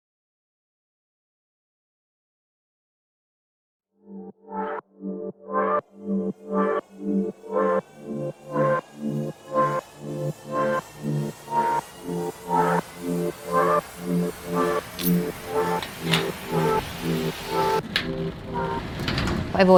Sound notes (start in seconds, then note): 4.0 electronic music; 15.7 unlocking padlock; 17.9 door rolls open